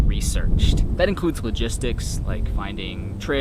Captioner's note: insects chirping